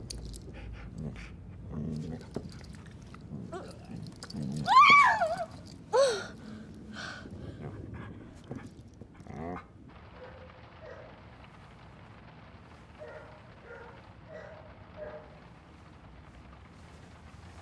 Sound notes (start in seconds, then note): 4.4 shrieking; 5.9 gasping; 9.2 pouring of rain; 9.2 soft growl; 11.0 distant barking